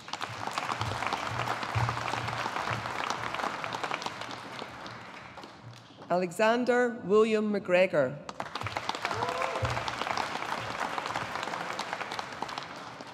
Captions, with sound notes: (AUDIENCE APPLAUDING) Alexander William MacGregor. (AUDIENCE APPLAUDING)